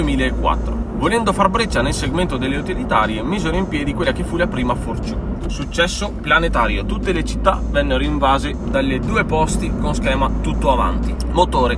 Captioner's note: engine and traction